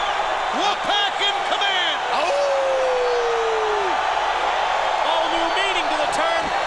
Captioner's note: Bobby howling